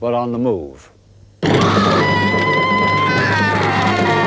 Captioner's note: screaming